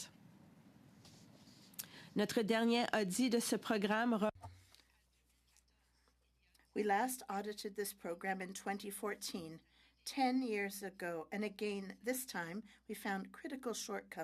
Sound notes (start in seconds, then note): 6.3 speaking French